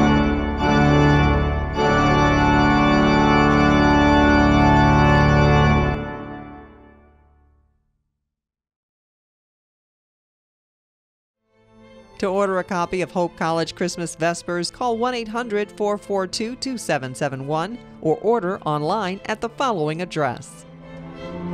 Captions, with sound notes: - [Voiceover] To order a copy of Hope College Christmas Vespers, call 1-800-442-2771, or order online at the following address.